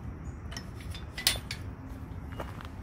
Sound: gate clangs open

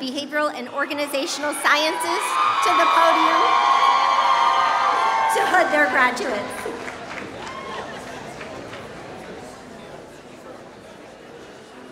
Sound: applause

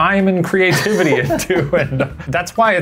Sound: laughing

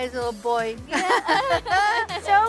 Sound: laughs

